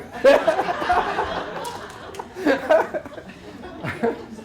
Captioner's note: laughter